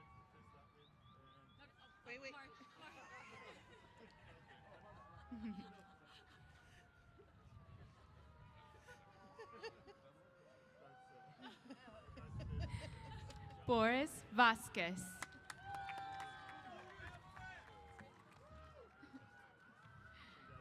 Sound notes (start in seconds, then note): 15.1 applause & Cheers